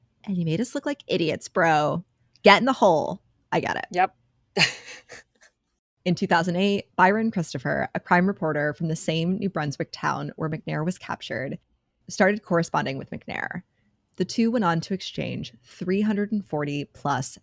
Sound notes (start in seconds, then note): 4.6 laughing